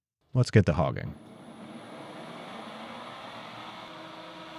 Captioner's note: machine whirring